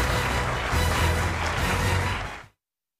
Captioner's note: applause